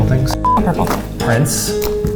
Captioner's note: beep